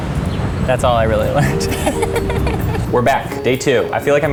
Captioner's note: both laugh